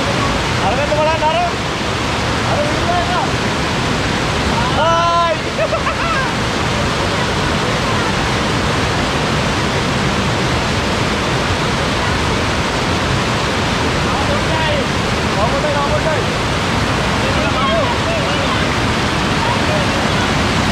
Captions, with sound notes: Look at that side! Hi!!! [Laughing] Only a little more to go!